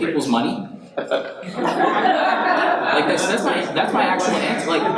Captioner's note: audience laughs and chatters